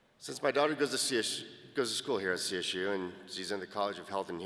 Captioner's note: none